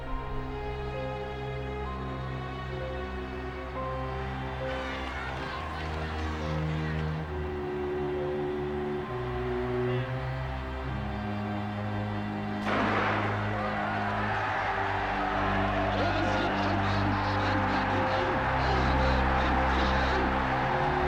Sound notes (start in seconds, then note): 12.6 applause